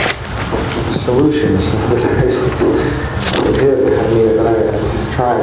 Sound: laughs

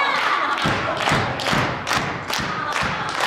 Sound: clapping

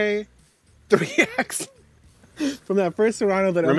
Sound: laughs

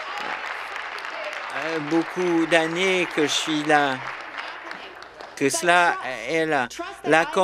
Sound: applause

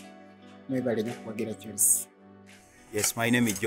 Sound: speaking in foreign language

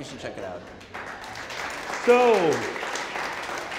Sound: audience applauding

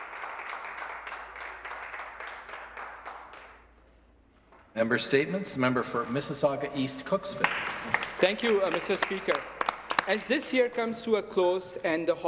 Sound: some Applause

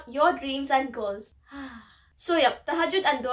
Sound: blissful sigh

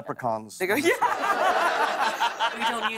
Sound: laughter

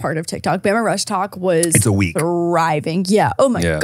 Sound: laughs

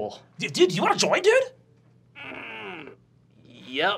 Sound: grunting

